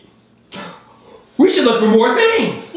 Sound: gasps

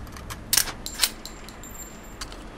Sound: gun cocking

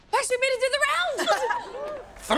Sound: laughing

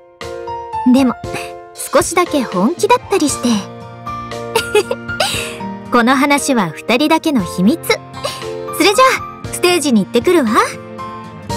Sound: giggle

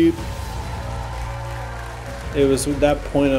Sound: applause

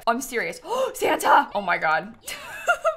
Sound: gasps

